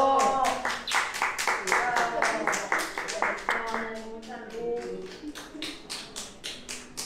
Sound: applause

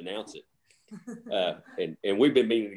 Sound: chuckles

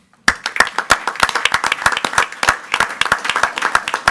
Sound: group applauding

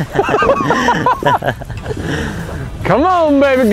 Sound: both laughing

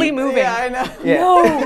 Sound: laughs

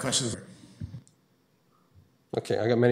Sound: audio drop

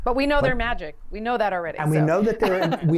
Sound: laughter

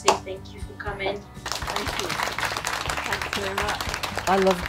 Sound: applause

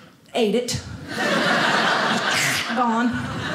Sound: audience laughing

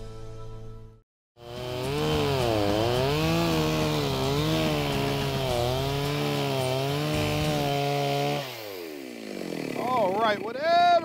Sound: saw buzzing

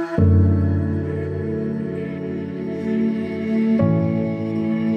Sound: none

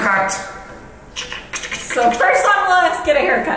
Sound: cutting mouth sounds

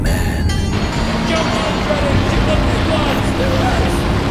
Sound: men shouting

